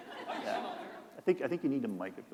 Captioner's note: laughter